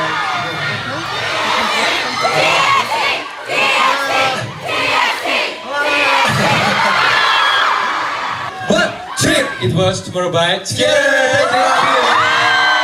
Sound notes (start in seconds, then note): 3.7 crowd chanting